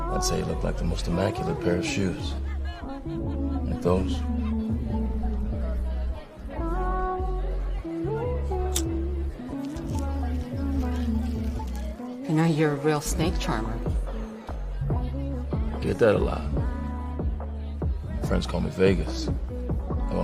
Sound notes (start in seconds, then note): 6.8 light music; 8.7 lighter clicking